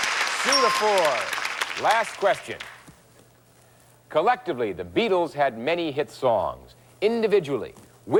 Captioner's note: aH@udiencH@e applH@auding